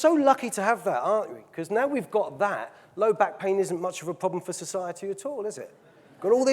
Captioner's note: audience laughing